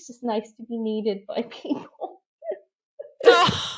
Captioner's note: laughs